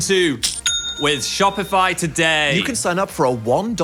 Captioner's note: register chimes